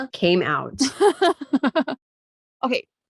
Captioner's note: laughing